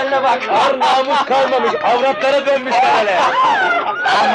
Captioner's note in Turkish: Kahkahalar